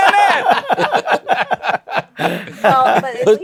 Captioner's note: laughter